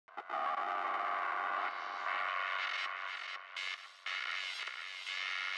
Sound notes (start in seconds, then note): 0.9 static